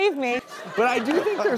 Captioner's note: laughing